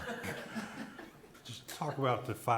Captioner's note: people laughing